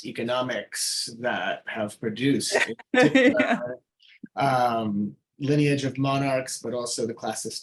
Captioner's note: laughing